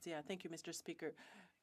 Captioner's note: speaking French